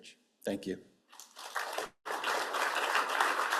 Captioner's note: applause